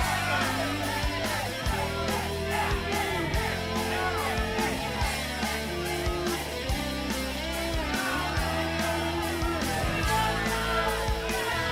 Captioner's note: crowd cheering; crowd chatter